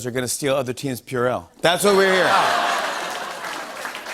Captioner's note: laughter